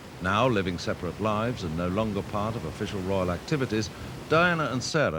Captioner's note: none